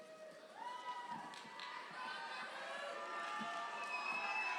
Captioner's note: audience cheering